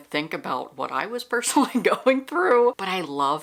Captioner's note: laughter